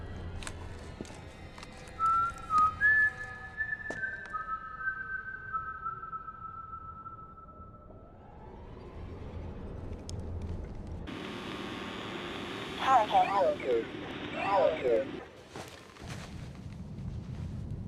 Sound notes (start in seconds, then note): 11.1 interface whirring; 13.3 automated Voice